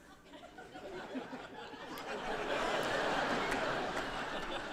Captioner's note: audience laughing